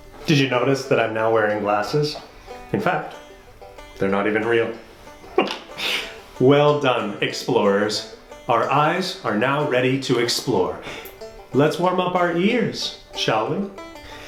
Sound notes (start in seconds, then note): 0.0 banjo strumming; 5.2 laughs